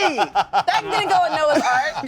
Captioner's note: laughs